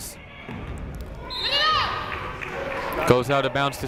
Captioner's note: whistle blows